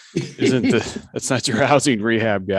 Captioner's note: laughing